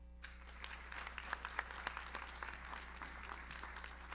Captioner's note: audience applauds